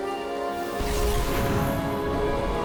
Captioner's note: smoke whooshing